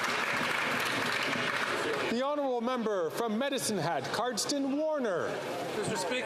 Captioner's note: some Applause